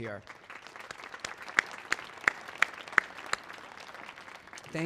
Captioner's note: everyone clapping